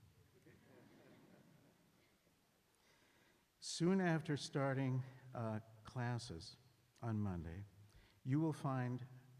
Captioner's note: laughter